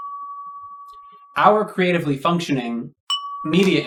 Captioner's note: ding!; ding!